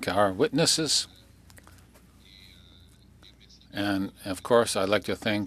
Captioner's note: speaking French